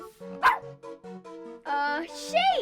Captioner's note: dog barking